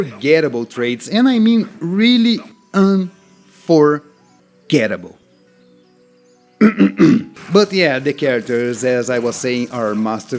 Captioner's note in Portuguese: limpa a garganta